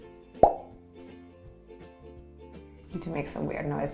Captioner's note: pop